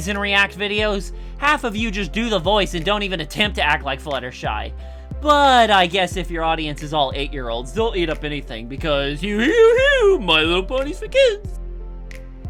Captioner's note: silly noises